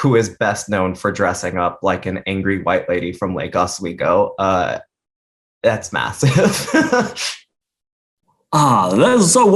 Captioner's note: laughs